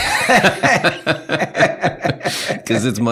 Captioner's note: laughing